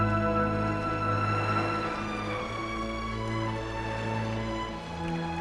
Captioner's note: waves lapping